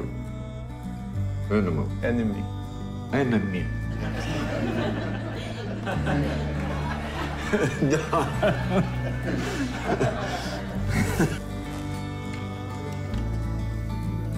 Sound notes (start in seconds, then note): 4.4 laughing